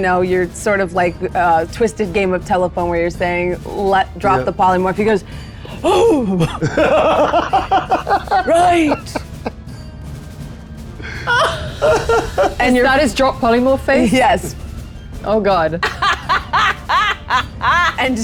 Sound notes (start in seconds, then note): 6.4 laughs; 11.2 laughs; 15.8 laughs